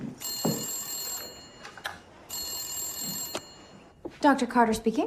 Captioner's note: phone ringing